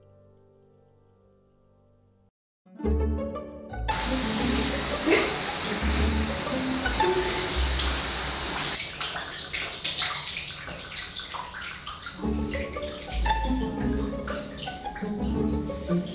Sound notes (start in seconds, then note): 2.6 playful music; 4.3 water trickling; 9.2 sad dripping noises